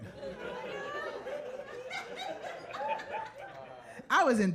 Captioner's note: audience laughs